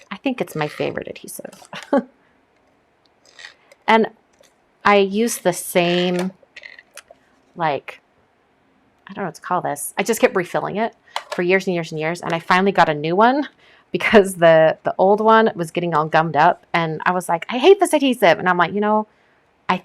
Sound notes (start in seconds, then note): 1.6 chuckles